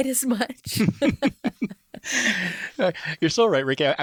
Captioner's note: laugh